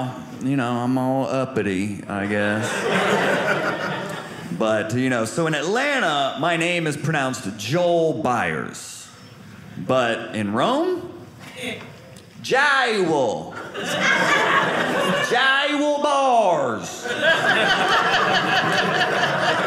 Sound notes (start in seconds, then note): 2.4 audience laughing; 17.0 audience laughing